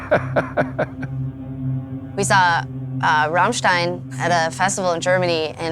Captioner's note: laugh